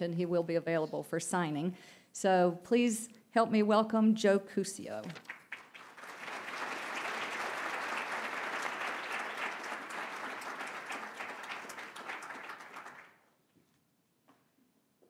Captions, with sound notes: he will be available for signing. So, please help me welcome Joe Cuseo. (Applause).